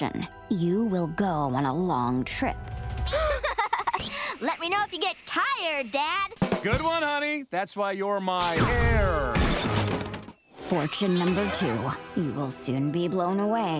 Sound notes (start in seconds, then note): 2.6 gasping; 3.1 Luan laughing